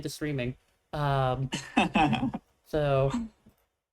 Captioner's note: chuckles